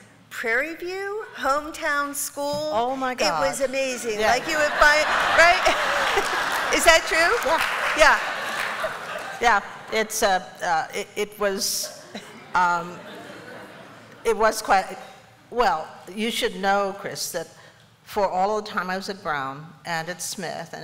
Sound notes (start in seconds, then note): 5.7 laughter